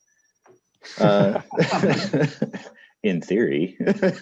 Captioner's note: all laughs